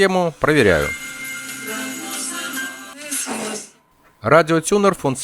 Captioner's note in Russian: звук радиостанции